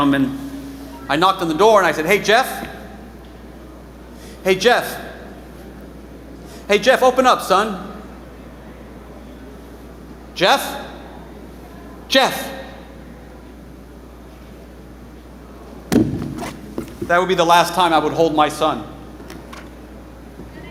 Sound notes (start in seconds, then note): 15.9 chair thuds